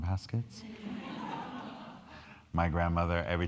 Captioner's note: crowd laughing